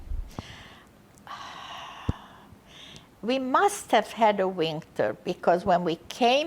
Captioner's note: sighing